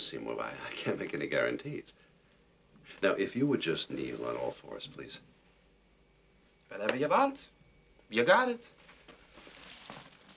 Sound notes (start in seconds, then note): none